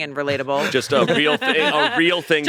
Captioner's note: both laughing